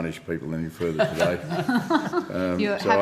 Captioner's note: laughing